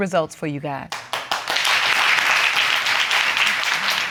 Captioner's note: audience clapping